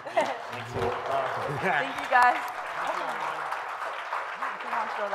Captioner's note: audience applauds